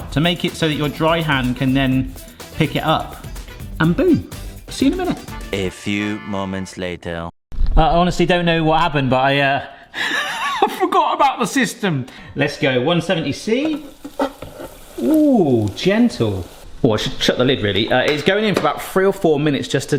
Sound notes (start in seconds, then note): 10.2 laughing; 16.0 oil sizzling